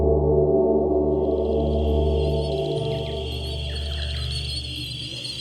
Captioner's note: mosquito buzzing sound